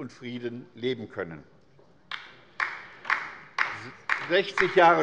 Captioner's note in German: Beifall bei der LINKEN